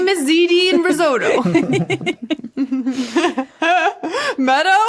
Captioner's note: guests giggling